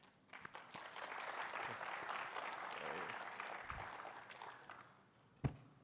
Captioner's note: applause